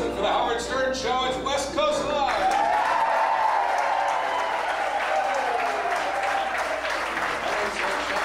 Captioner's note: applause